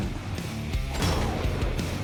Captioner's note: gunshot